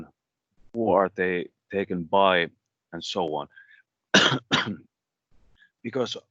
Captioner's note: coughs